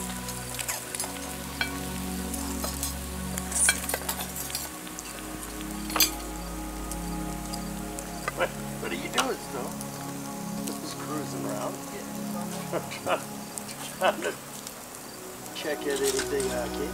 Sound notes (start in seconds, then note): 0.1 meat sizzling; 7.4 background chatter